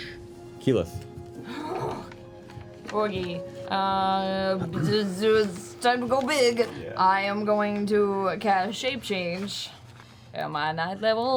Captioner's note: sighs